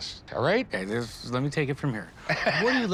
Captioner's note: chuckles